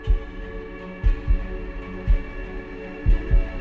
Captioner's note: murmuring